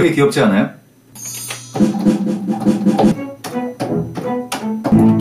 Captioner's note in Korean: 믹싱하는 소리